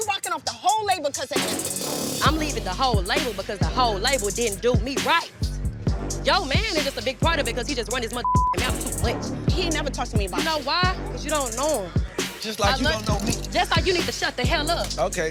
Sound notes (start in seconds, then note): 8.5 tense thumping music; 12.9 jewelry clicking